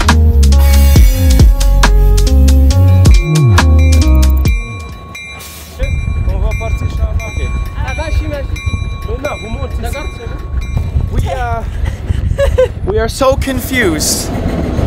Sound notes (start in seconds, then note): 3.8 bell rings; 11.1 chuckles